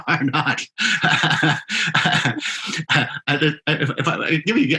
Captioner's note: laughing; laughs